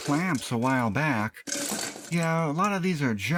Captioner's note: clanking